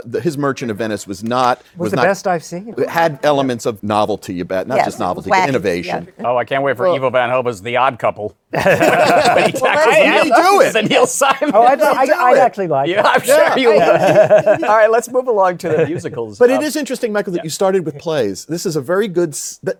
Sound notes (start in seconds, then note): 8.5 laughter